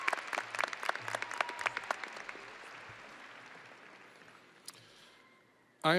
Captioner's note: audience applauding and cheering